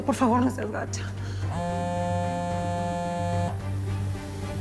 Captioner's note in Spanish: Celular vibra